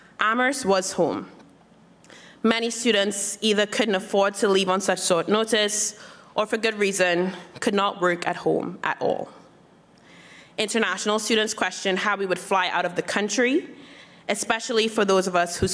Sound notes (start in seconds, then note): none